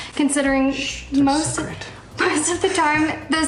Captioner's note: giggles